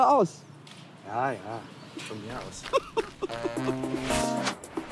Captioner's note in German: lacht